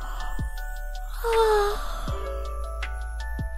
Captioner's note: big yawn